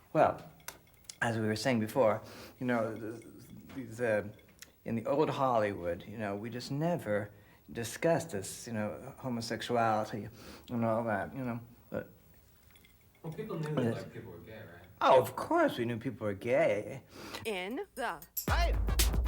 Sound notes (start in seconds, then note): 17.2 loud sniff